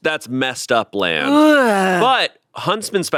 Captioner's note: groans